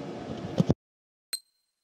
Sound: microphone turning off

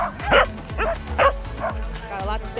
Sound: dog barking; dogs barking

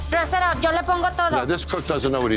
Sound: foreign language

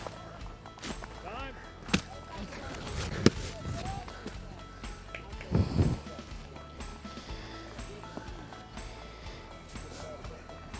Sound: baseball running and sliding

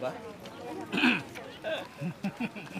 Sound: clears throat; laughter

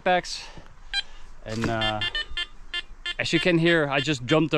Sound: detector beeping

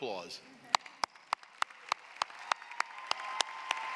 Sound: applause

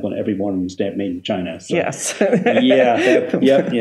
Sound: laughs

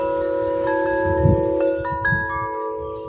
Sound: wind chime

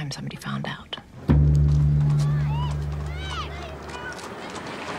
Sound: hoof beats, children yell and chatter

